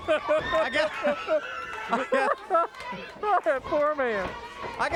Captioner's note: laughs